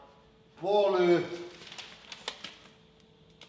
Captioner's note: paper rustles